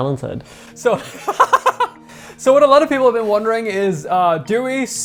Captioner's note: laughs